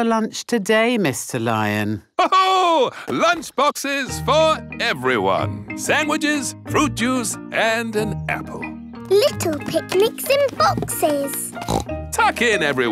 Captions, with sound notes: What's for lunch today, Mr. Lion? (LAUGHS) Lunch boxes for everyone! Sandwiches, fruit juice, and an apple! Little picnics in boxes! (SNORTS)